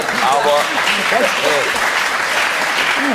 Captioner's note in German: Lachen, Applaus